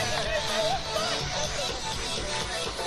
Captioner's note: woman laughs and chatters